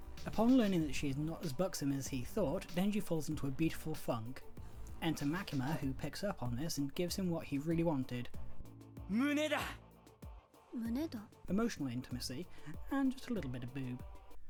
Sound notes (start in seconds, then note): 8.2 Denji speaking Japanese; 8.2 Makima Speaking Japanese